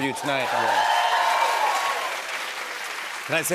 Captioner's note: cheers and applause